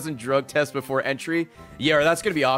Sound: none

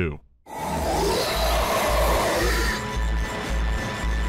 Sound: monstrous wheezing

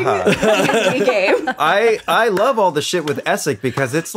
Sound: laughing

